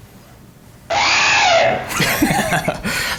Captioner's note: dinosaur howling; laughing